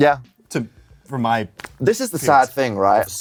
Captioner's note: stutters